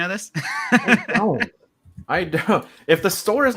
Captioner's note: laughs